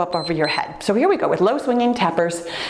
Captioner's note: timer beeps